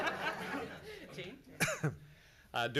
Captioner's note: laughs